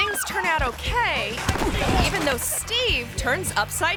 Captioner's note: thuds